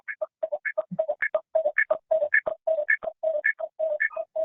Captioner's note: audio distorting